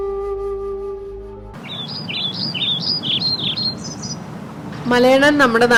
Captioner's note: birds chirping